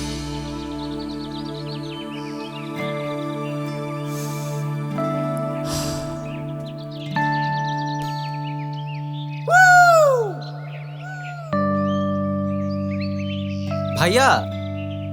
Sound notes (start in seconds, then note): 3.9 takes a deep breath; 11.1 echoes